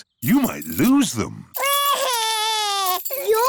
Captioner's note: crying